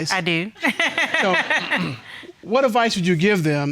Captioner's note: laughing